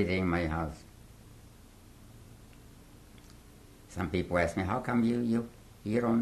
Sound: pauses for 3 seconds

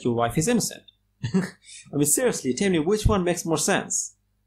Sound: laughs

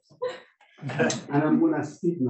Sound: laughing

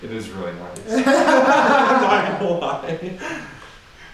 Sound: all laughing

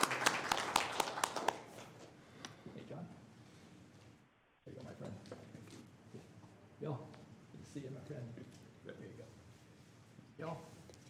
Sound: applause

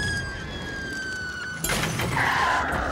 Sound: yells; tires screeching

